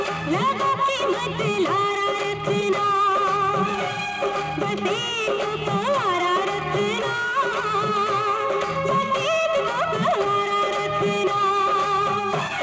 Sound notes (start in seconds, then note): none